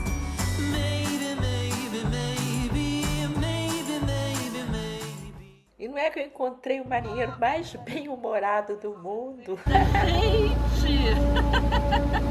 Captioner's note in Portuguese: risos